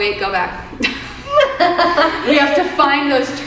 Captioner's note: both chuckling